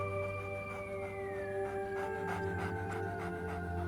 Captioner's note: coyote panting